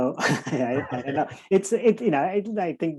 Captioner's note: laughing